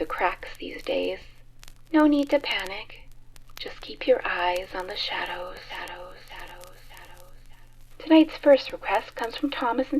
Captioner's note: echoing